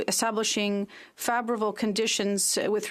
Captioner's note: speaking French